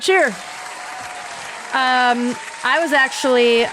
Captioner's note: cheers